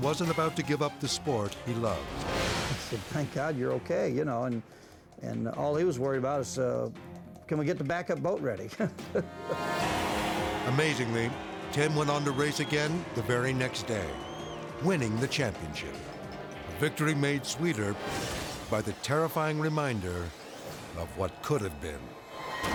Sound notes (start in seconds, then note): 8.7 laughs